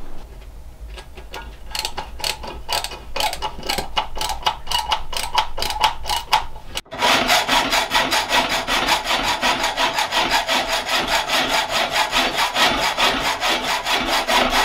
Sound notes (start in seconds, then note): 0.9 tool clattering; 7.1 saw scraping